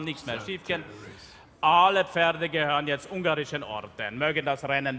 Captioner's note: speaking in German; speaking in German